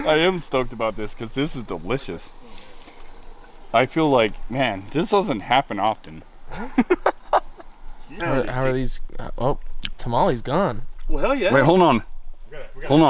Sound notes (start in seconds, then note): 6.4 laughing